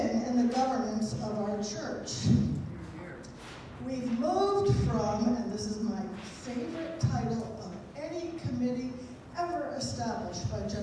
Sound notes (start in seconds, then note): none